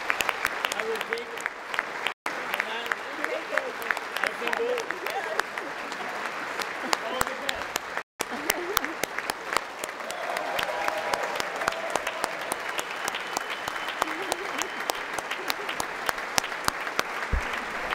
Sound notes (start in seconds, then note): 6.5 applause